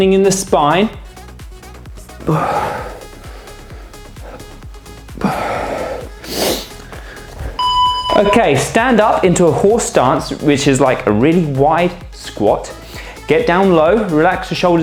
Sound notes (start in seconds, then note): 2.2 snorts